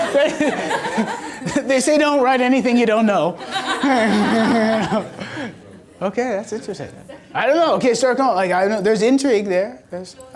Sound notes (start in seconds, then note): 3.4 laughing